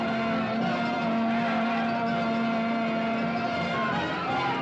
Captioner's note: horn blowing; suspenseful music; commotion; suspenseful music